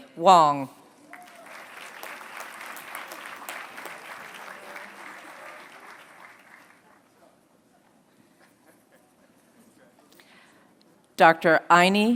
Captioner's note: applause